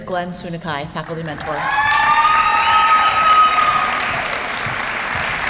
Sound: applause

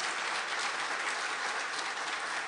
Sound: applause

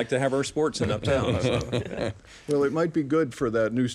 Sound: panelists laughing

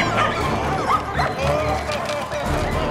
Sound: dogs whooping, barking; sobbing

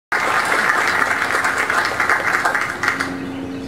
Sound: audience applause

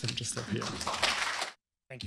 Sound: applause

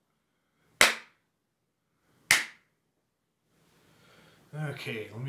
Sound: clapping

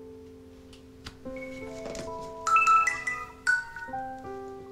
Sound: phone ringing

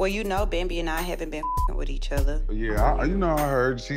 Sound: beep

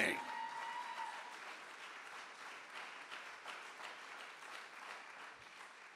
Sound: audience cheers and applauds

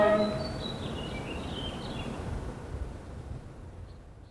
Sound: bird chirping

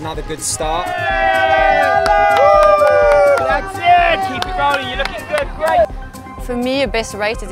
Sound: crowd Cheers & Applause

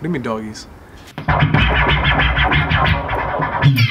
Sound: turntable spins

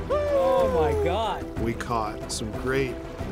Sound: laughs

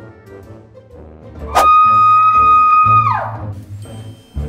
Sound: scream

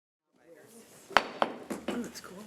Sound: gavel knocking

